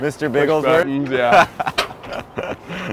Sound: laughs

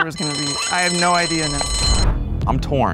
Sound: bell ringing

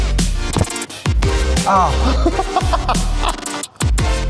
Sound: upbeat music; indistinct laughs; upbeat music

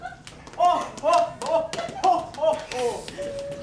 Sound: laughs

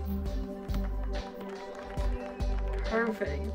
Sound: group cheering

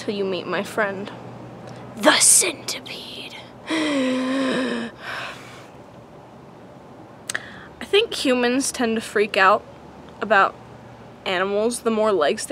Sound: gasp

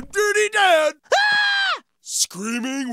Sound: screaming

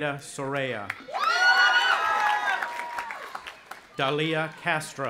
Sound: audience applauding and cheering

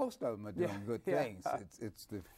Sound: chuckles

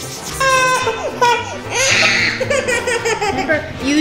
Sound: girl whining; little girl whining

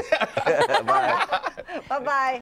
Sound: laughter

